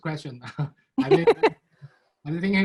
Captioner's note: laughing